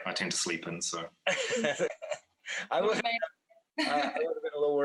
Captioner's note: laughter